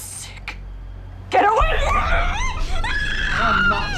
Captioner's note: muffled screaming